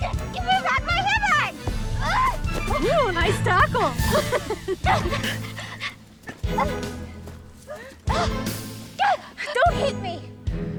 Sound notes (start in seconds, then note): 4.2 laughs